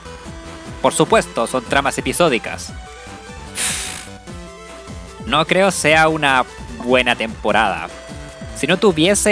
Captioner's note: sigh